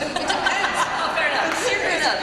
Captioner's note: laughter